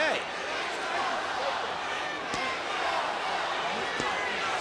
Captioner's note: audience chanting